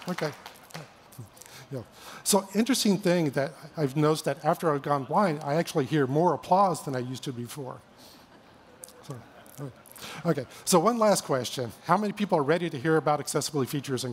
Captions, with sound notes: OK. So, an interesting thing that I've noticed that after I've gone blind I actually hear more applause than I used to before. [LAUGHTER] OK. So one last question-- how many people are ready to hear about accessibility features